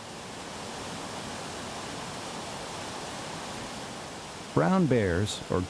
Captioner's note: water rushing